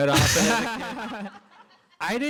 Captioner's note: laughter